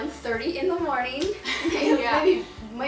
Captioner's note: laughs